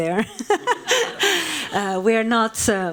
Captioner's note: laughing; laughs